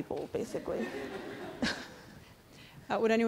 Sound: audience laughing

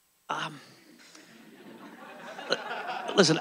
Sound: audience laughing

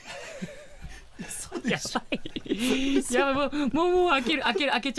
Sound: laughs

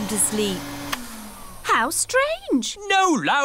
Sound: whirring stops

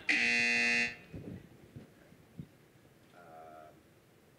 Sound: buzzer

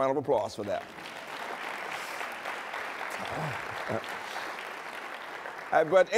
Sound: applause

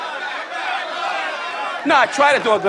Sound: audience yelling

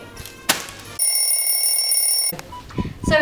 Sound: alarm ringing

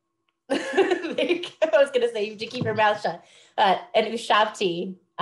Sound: laughs

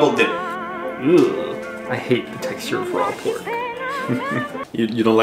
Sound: groans; laughs

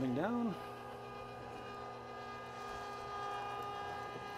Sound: machine roaring

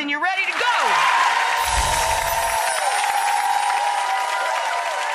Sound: audience applauding

